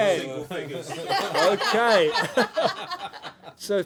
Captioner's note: laughter